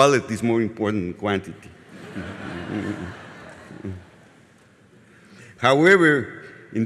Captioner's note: laughter from audience